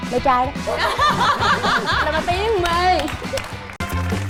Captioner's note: laughing